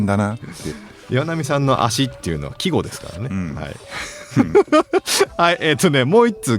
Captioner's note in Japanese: 笑い